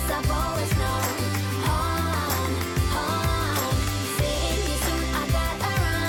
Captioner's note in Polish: Aplauz